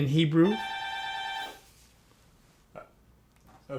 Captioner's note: phone rings